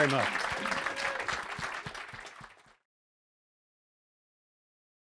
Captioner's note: applause